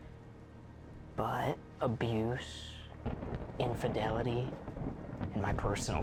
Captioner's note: thunder rumbling